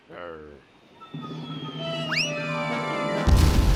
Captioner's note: object whistling through air